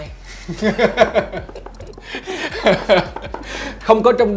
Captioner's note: laugh